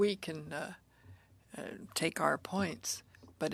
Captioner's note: speaking French